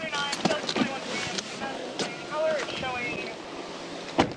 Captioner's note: dispatch radio